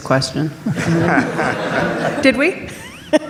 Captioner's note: audience laughs